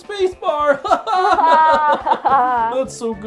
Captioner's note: laugh